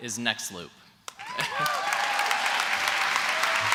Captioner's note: applause